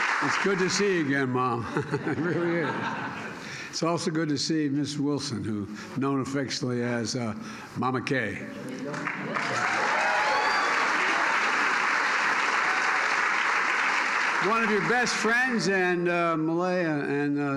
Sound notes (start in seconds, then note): 1.5 laughter; 12.5 applause